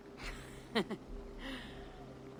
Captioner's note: laugh